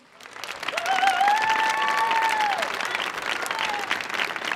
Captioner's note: audience applauding